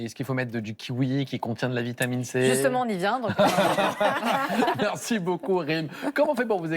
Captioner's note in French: rires